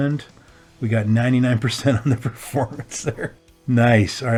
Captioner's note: laughter